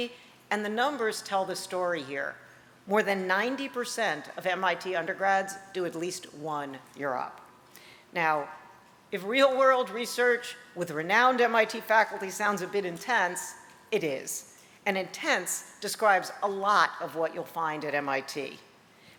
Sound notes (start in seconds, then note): none